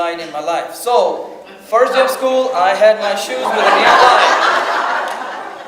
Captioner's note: audience laughs